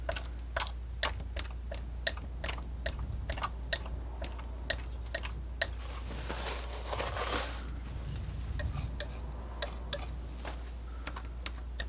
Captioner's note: tapping